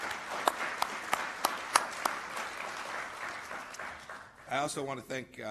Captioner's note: applause